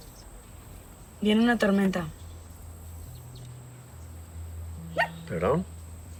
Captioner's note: woman speaking in Spanish; James speaking in Spanish